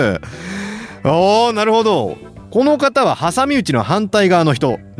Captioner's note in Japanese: 息をのむ音; 笑い